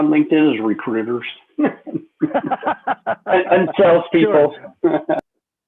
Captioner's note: laughter